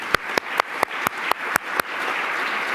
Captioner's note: applause